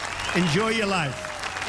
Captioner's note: applause